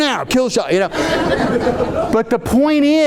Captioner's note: audience laughing